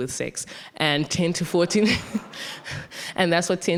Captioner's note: audience laughing